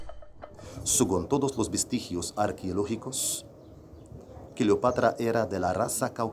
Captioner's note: speaking in foreign language